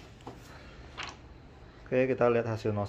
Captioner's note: plastic sound